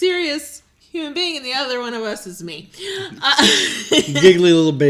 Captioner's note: laughs